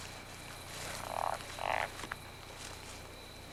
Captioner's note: chirping